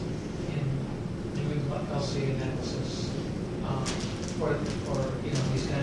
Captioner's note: speak faintly